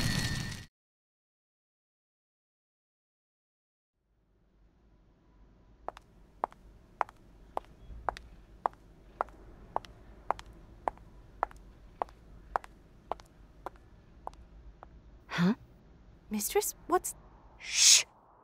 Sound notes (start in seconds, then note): 0.9 silence; 5.9 Footsteps briefly clack as wind blows around Dorothea and Bride